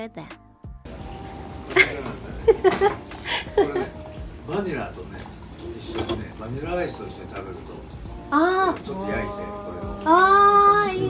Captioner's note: japanese Conversation